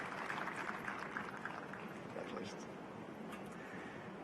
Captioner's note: applause